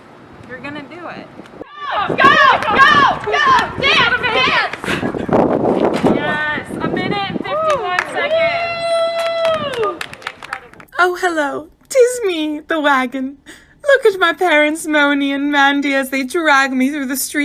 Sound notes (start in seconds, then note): 1.7 cheers